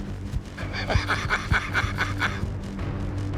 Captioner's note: laughs